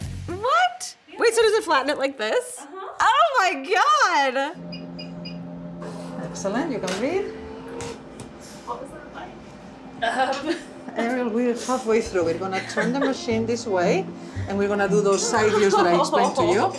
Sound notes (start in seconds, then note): 4.5 machine beeping; 10.0 chuckles